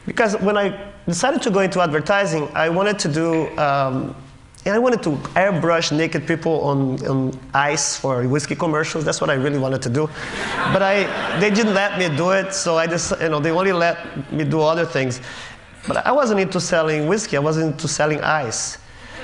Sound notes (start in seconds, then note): 10.2 Laughter